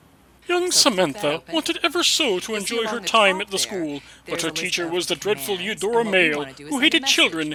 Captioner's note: storybook voice